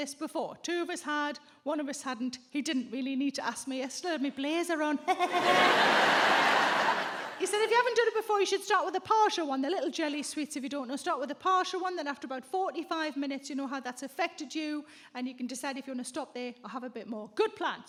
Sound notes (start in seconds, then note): 5.1 audience laughs; 5.1 chuckles exaggerated